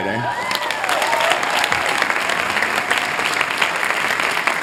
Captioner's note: applause